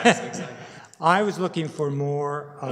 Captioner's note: laughter